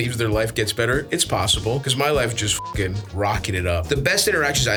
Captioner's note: beeps